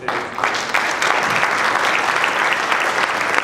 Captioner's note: applause